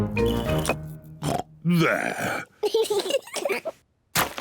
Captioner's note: oinks; both laugh